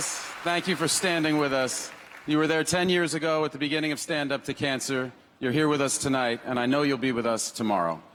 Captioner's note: applause